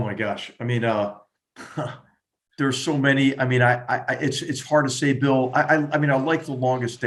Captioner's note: laugh